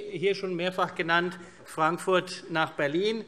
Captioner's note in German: none